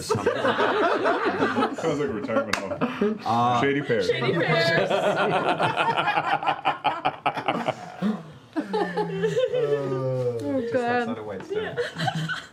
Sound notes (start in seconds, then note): 4.1 laughter